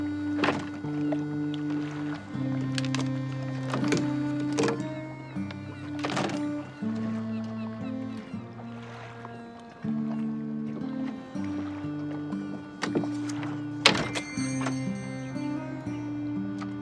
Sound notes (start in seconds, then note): 13.9 bell dinging